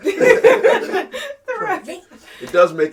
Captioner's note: laughs